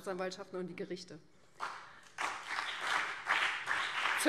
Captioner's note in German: Beifall BÜNDNIS 90/DIE GRÜNEN und CDU